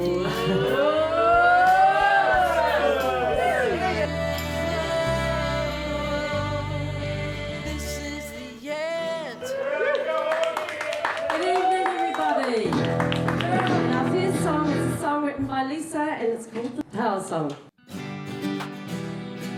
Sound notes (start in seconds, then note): 9.8 clapping; 17.9 soft rock music